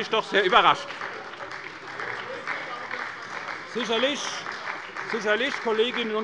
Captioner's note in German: Beifall bei der SPD